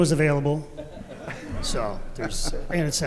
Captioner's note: audience laughing softly